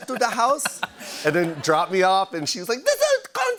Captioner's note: laughter; normal voice